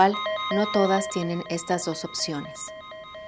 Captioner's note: beeping